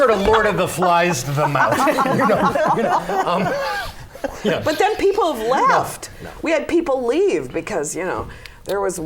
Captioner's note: laughter